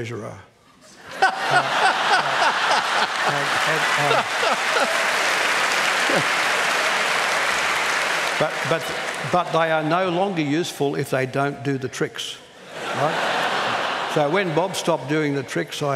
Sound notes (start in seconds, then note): 1.0 laughter; 4.2 cheering